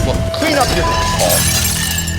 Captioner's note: beep